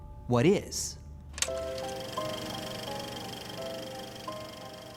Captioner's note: projector whirring